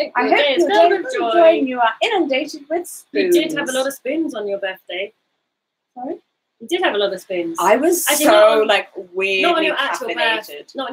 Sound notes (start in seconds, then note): none